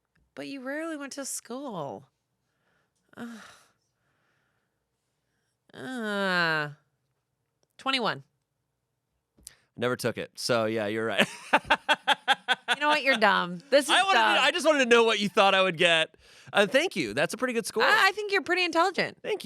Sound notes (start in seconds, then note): 5.9 Amanda groans; 11.2 laughs